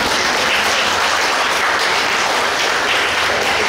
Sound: laughing and clapping

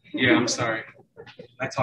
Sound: laughing

